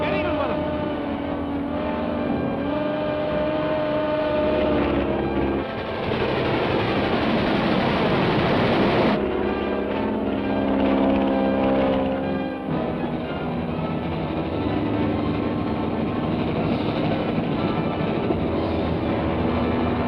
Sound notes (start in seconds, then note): 4.1 airplane whirring; 4.1 train rumbling; 9.3 airplane whirring; 13.7 intense music